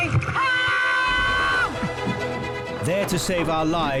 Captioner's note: casualty screaming